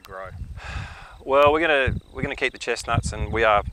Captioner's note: sighs